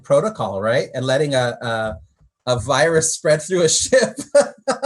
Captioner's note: laughs